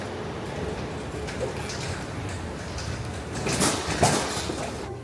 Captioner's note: trolley clacking faintly